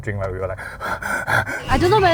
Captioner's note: hyperventilating